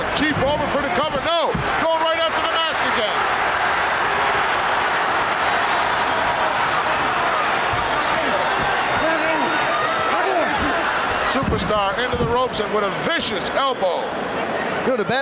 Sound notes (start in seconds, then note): 3.7 audience cheering